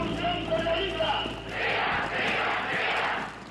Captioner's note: man shouting in Spanish over loudspeaker